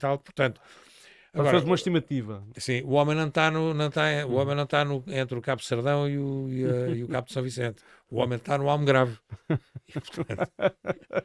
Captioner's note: laughter